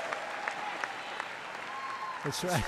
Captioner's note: applause